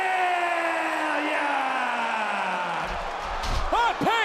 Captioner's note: crowd cheers